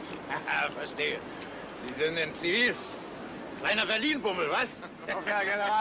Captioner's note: laughs